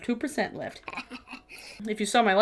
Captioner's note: laughs